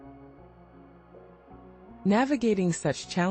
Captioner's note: pause